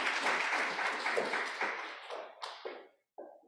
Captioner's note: applause